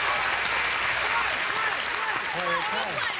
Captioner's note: audience applauding